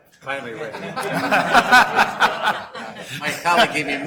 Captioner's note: laughing